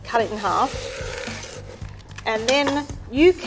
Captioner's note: knife grinding against wooden board